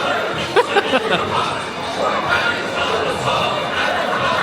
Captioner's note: laughing